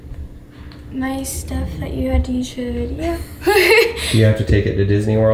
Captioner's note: laughs